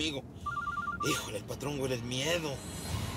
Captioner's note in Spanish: suena un celular